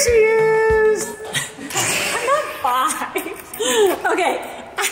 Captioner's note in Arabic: كلاهما يضحك